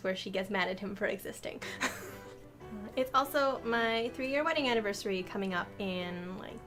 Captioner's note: laughs